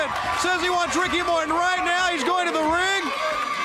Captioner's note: crowd cheering